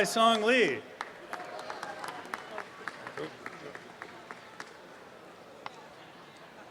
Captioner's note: applause